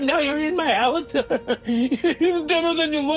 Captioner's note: Professor Fitzhubert laughs